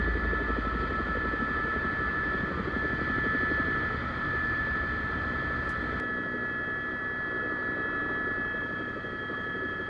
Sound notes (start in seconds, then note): 0.1 helicopter; 3.9 helicopter; 7.5 helicopter